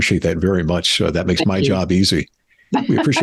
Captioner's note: laughs